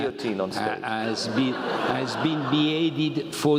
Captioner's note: laugh